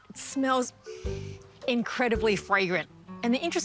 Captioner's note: inhales